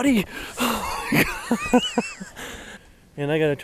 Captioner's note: laughing